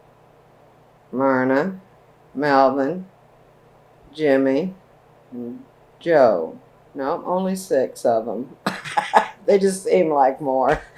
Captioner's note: laughs